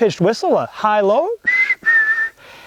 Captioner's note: whistles